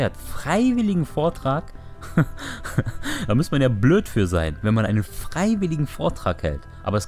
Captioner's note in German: Dummes Gelächter